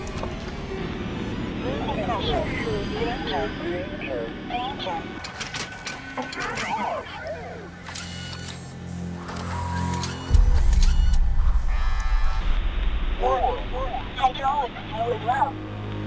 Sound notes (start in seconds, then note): 2.0 distorted voices echoing; 3.6 automated Voice; 6.7 robot whirring mechanically